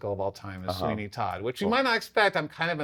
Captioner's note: laughs